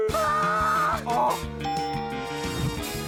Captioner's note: ding!